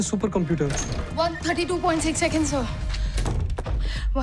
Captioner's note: door opens; Neetu gasps